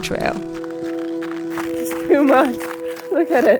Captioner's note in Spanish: la nieve cruje